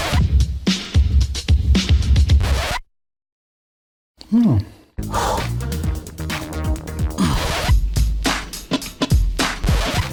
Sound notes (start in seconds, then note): 2.7 silence; 4.2 heavy Breathing